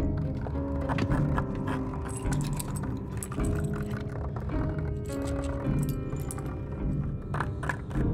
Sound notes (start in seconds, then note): 4.2 scratching